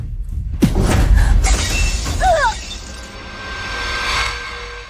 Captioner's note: grunting